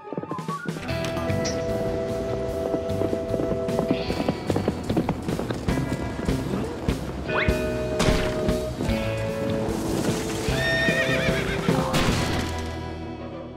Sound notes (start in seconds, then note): 10.4 horse whinnies